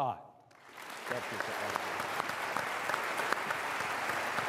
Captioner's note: applause